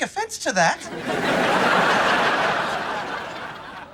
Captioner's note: laughs